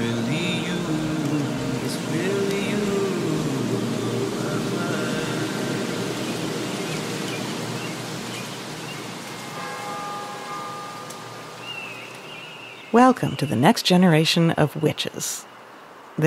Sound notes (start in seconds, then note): 5.5 bird chirping; 5.5 rain pattering; 9.4 bell ringing